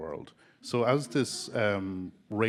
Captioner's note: audience chuckling